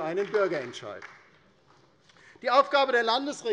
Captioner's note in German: Beifall bei der LINKEN